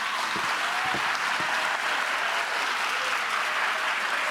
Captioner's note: audience clapping